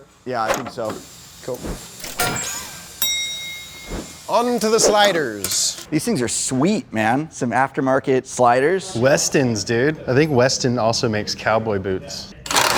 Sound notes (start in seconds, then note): 3.0 bell dings